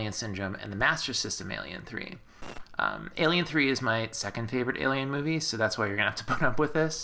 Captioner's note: static